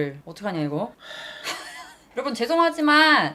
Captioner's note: deep sigh